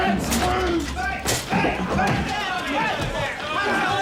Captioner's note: men call out; cheering